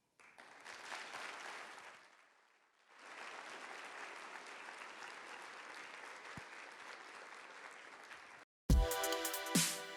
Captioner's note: applause